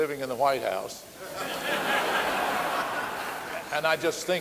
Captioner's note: audience laughing